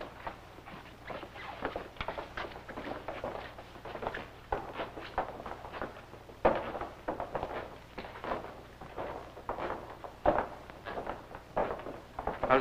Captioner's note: footsteps; foreign language